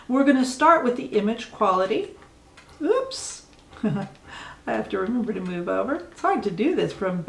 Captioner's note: chuckle